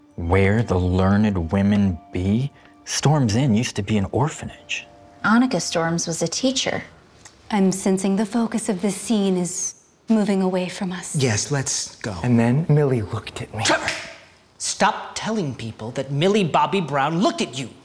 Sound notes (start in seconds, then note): 14.6 snaps